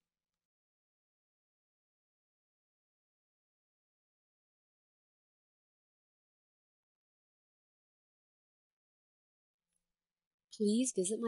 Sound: pause

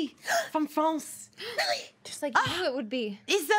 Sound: gasps

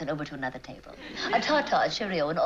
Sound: English accent

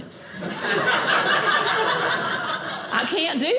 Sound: audience laughing

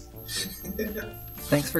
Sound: laugh in Background

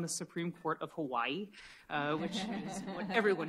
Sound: laughter

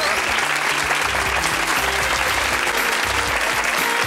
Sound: audience applauding

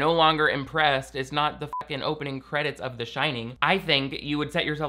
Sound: beep

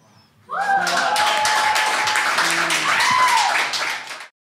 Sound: audience cheers and applauds

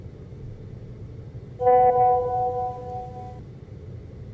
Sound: notification sound

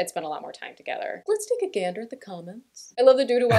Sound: weirdly deep voice

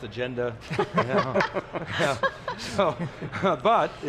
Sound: laughs

